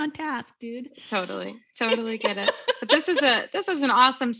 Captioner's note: laughing